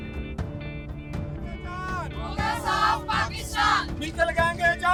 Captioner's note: chanting in the background